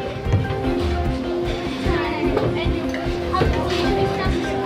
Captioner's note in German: Stimmengewirr